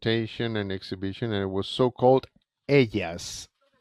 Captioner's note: speaks in foreign language